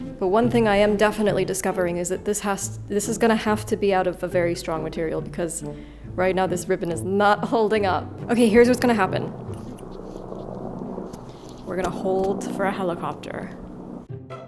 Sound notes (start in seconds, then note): 10.1 helicopter blades whirring; 14.0 playful music